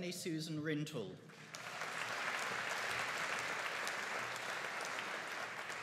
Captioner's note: audience applauding